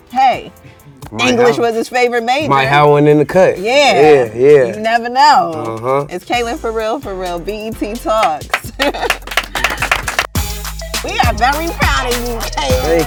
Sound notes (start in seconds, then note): 8.2 clapping